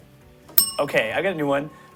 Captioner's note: bell rings